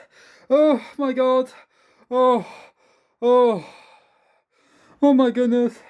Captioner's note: breath